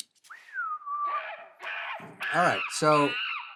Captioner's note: whistles; monkey screeching